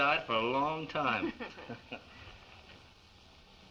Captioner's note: chuckles